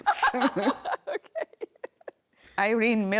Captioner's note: laughing